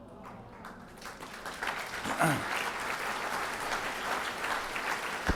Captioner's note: audience applauds